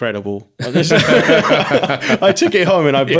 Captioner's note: all laughing